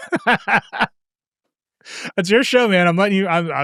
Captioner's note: laughing